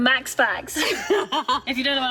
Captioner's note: both laugh